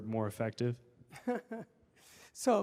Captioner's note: laughs